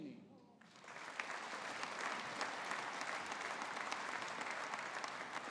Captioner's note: audience applauding